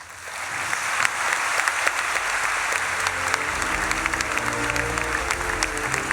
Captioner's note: audience clapping; dignified music